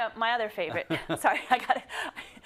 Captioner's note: laugh